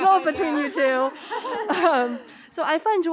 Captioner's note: all laughing